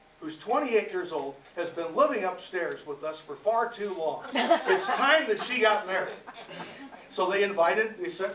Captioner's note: laughter